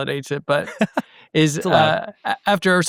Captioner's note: chuckling